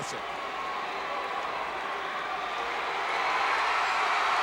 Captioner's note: audience cheering